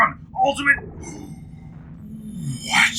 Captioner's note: gasps